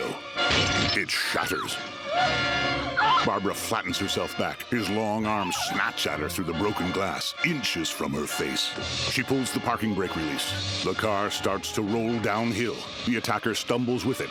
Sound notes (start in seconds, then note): 0.4 glass shattering; 2.0 screaming